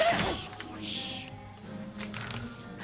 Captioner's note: shushing